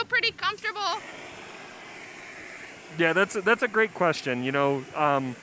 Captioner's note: sound of blowtorch